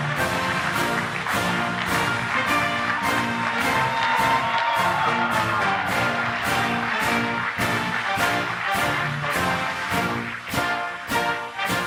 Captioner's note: applause